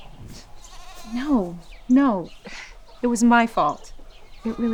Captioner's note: scoffs